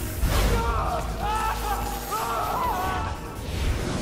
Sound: yelling

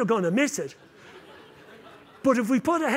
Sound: laughter

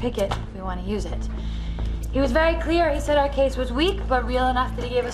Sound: none

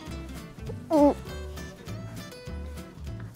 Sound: gags

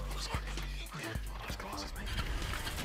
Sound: ignition starts

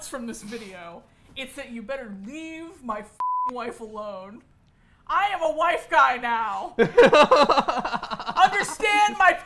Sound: laughs

